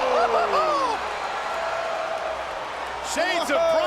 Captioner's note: Jerry laughs